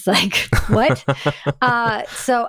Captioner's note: laughing